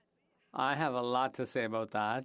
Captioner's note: speaking French